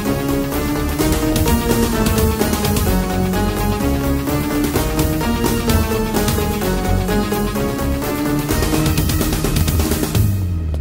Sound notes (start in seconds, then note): none